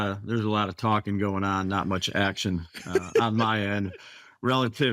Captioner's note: laughs